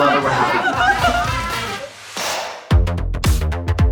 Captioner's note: jean laughing